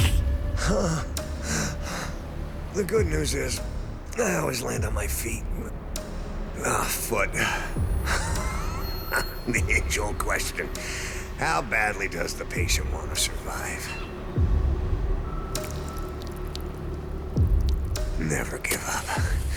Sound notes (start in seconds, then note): 0.0 groans; 8.0 wheezing laugh; 15.3 liquid trickling